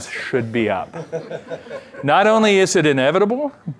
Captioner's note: laughter